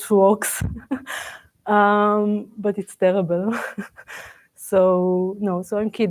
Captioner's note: laughs